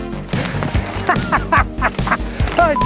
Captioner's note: laughing